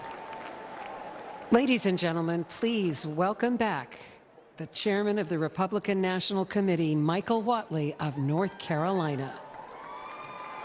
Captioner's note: cheers and applause